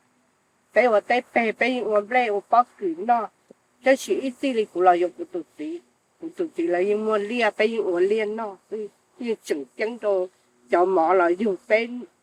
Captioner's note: speaking in foreign language